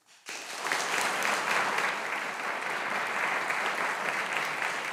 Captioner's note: audience applauding